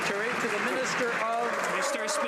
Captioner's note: some Applause